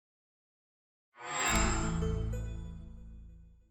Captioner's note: chime